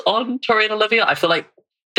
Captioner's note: laughs